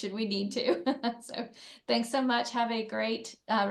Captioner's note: laughs